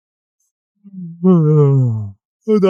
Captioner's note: yawns